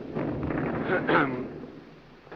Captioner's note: ahem